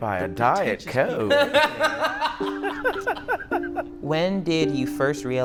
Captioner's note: laughing